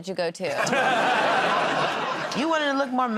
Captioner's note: laughter